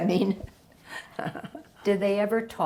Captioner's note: laughing